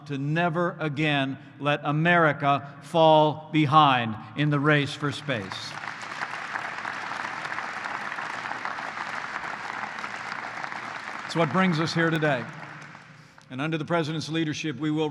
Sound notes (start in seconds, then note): 5.0 applause